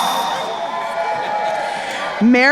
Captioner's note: crowd cheering